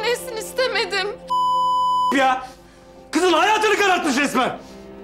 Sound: beep

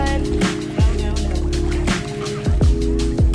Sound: pool splashing; chill music

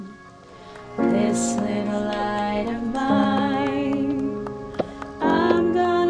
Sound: clapping

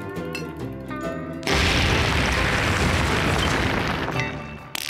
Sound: discharging sand

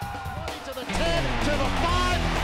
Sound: cheering

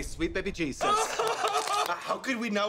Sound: cristobal laughs

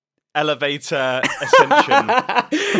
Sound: laughs

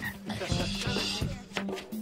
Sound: Eric shushes; upbeat music

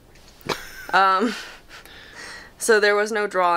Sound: laughing

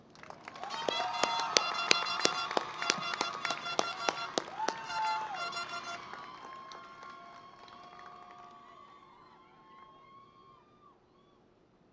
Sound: cheering and Applause

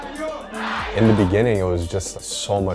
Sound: crowd

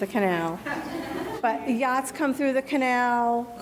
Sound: crowd laughing

